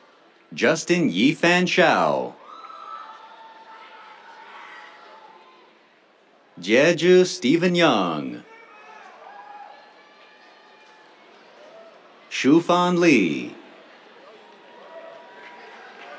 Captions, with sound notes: Justin Yifan Shao. [CHEERS] Jiezhi Stephen Yang. [CHEERS] Shufan Li. [CHEERS, APPLAUSE]